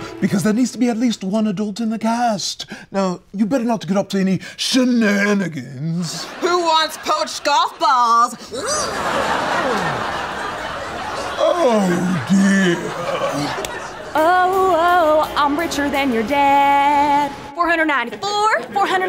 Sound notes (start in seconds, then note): 6.2 laugh track; 8.4 more laughter